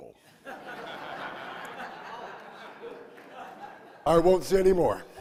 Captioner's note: audience laughing